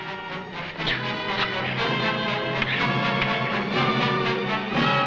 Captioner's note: weapons whooshing